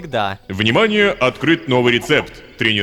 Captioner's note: notification